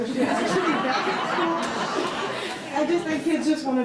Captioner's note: all laughing